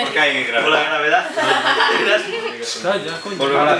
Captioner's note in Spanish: risas